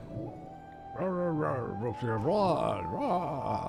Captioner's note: non-english speech